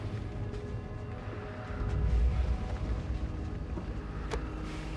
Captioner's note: none